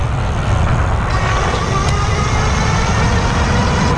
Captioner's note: gears turning